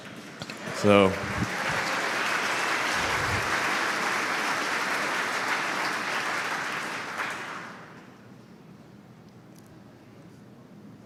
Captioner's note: Applause; 掌声